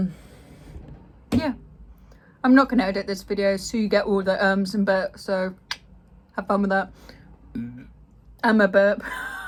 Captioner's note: burps